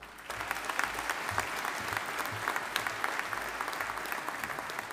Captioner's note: audience applauding